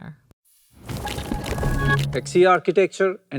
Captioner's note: transition sound effect